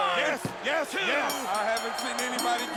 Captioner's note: bell ringing